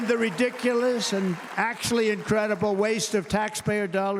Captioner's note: cheers and applause